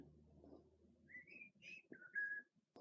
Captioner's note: whistles Transformers theme